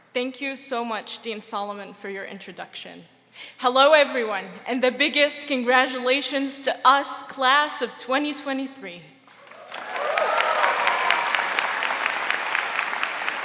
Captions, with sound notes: - Thank you so much, Dean Solomon, for your introduction. Hello, everyone, and the biggest congratulations to us, class of 2023. (audience applauding)